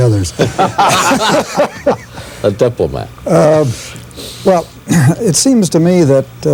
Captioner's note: laughter